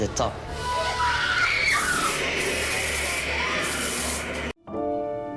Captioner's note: screaming